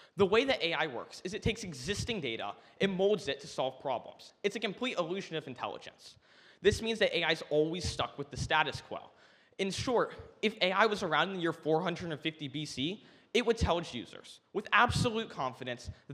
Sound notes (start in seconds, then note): none